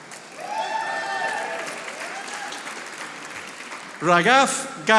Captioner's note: audience applauding